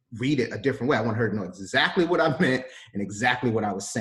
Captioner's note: laughs